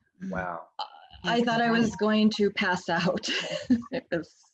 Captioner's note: laughs